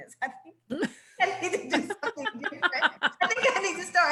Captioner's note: laughs